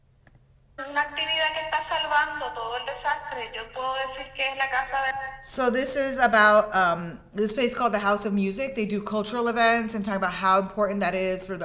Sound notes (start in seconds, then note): 0.8 woman speaking in Spanish